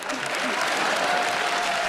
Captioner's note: cheers and applause